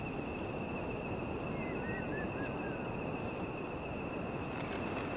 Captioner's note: birds chirping